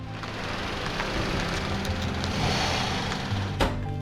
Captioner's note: engine rumbling